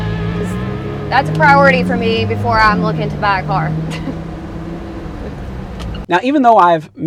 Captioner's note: laughs